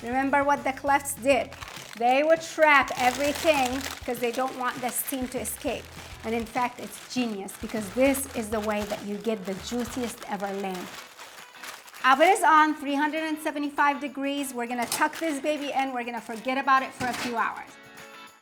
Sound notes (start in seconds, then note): 6.3 paper crinkling